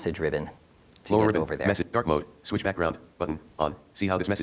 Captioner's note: screen reader in background